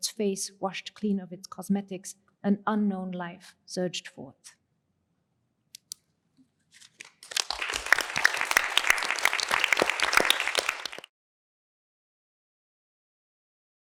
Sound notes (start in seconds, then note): 7.0 applause